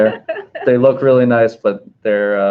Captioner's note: laughing